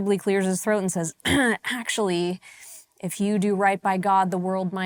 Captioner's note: clears throat